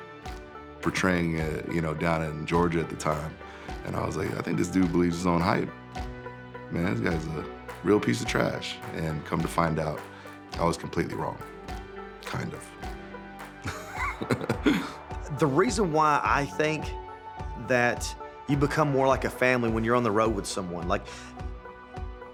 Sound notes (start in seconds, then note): 13.6 laugh